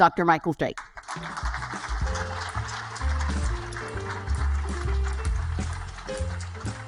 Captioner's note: audience applaud; jazzy music